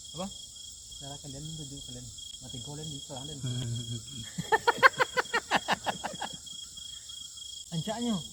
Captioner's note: laughs